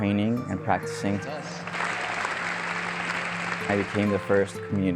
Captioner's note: audience clapping